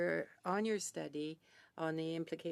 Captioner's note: speaking French